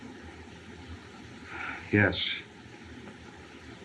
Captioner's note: sigh